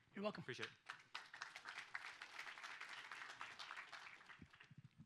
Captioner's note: audience applauds